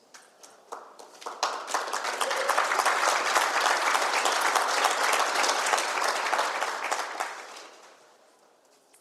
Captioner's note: applause